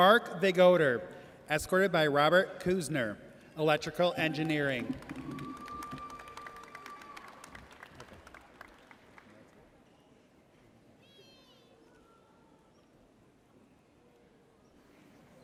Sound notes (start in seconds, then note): 5.5 audience cheers